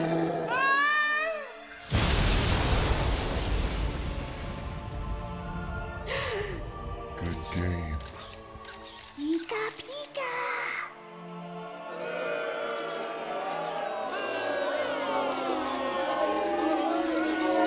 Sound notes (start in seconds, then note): 0.5 screams; 1.8 thunderclap; 5.8 gasps; 6.8 in an evil voice; 11.6 crowd booing